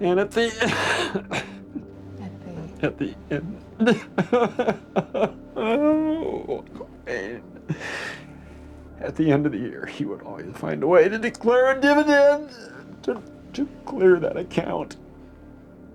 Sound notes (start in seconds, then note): 0.3 sobs; 3.8 sobbing